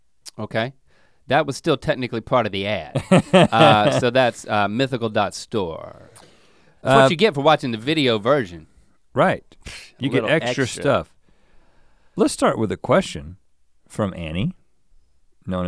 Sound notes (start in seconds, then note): 2.9 Rhett chuckles